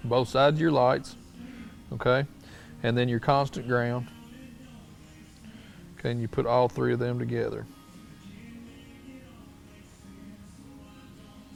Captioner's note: silence